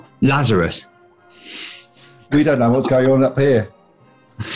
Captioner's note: sniggering